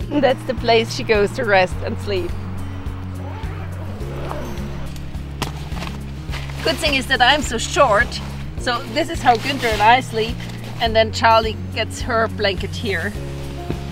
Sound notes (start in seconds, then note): 3.4 zipper rasping